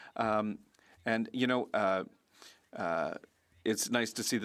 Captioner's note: speaking French